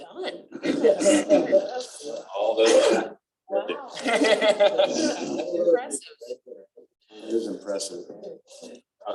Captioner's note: laughter